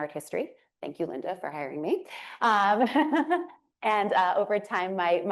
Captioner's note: laughs